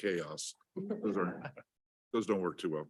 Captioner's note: attendees chuckling